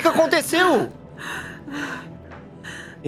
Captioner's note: sobbing